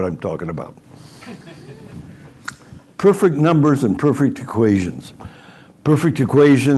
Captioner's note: laughter